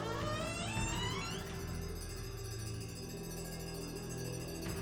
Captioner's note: door creaking